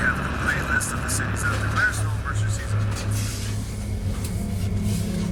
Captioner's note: ruido de radio zumba; ominosa de la música